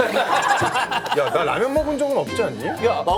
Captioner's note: laughs